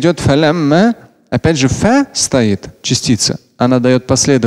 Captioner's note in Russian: говорит на арабском